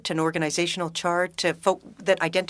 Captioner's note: speaking French